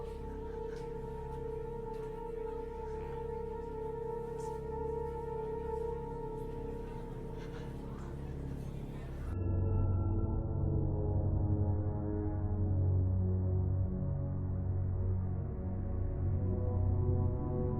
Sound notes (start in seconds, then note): 4.2 whispers; 9.6 thrilling music